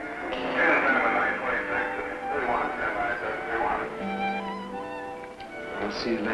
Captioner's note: crackling voice speaking in intercom